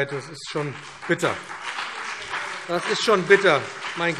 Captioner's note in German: Beifall BÜNDNIS 90/DIE GRÜNEN, vereinzelt CDU und SPD - Zuruf AfD